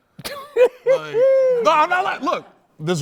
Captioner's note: laughs